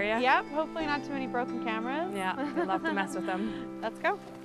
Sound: laughing

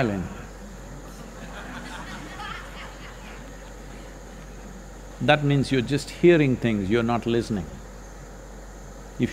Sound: laughter

